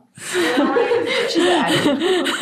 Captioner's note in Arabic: يضحك الجميع; تضحك وتغرق في الأصوات الأخرى